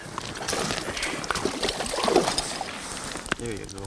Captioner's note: splashing